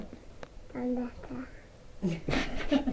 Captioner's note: speaks quietly; laughs